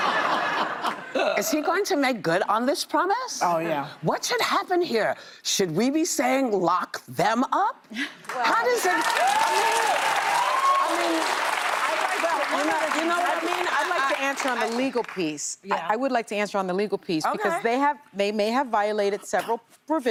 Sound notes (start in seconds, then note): 0.0 laughter; 2.2 laughter; 11.3 cheers and applause